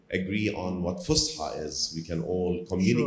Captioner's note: speaks in foreign language